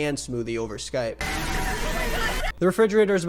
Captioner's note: blender whirring; people screaming